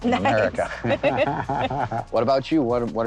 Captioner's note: both laugh